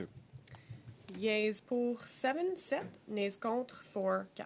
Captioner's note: speaking French